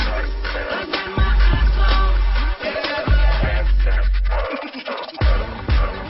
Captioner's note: none